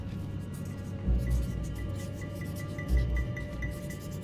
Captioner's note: sharpie scratching